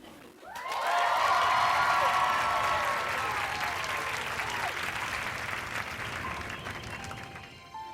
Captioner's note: cheers and applause